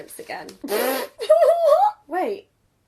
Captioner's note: laughs